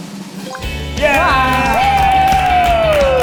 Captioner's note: drumroll plays; group cheers